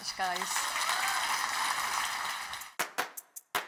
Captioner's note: audience applauds; bright music